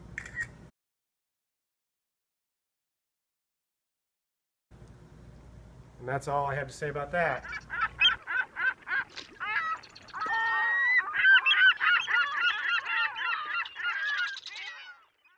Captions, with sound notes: [ Camera shutter sound ] And that's all I have to say about that. [ Bird's chirping ]